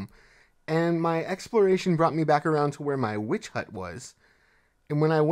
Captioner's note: none